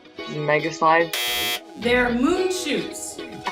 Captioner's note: buzzer sounds